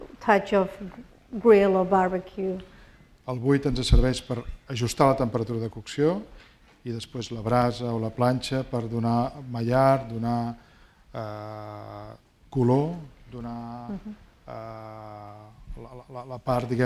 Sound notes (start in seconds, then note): 3.7 speaking spanish